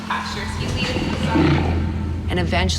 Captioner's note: growls